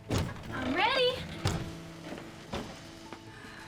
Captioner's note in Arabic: يُفتح الباب ويُغلق